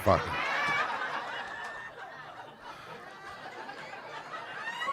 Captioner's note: audience laughing